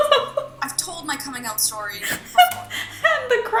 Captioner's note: laughs